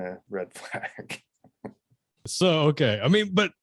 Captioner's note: man laughs